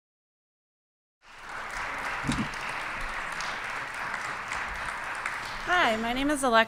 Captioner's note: applause